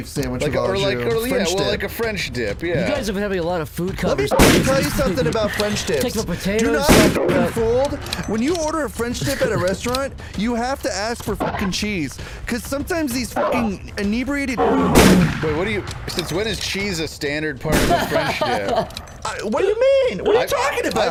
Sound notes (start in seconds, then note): 17.7 laughs